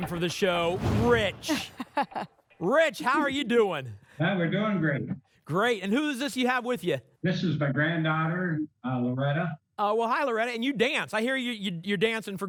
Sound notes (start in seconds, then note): 1.4 laughs